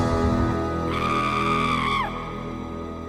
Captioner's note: POOPLOSER_69 screams loudly in the distance